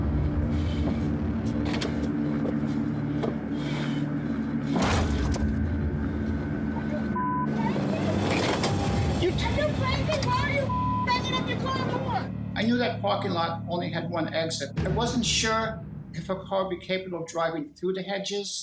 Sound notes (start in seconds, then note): 4.7 thuds